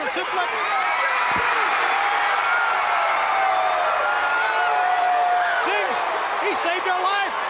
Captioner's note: crowd cheering